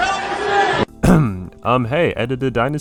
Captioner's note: cough